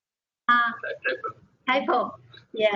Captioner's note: man talking